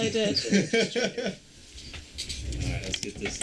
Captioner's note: band member laughing